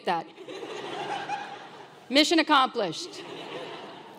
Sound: laugh

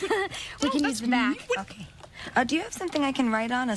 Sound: laughs

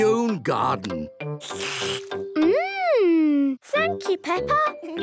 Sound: slurps

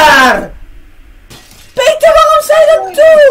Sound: glass breaks

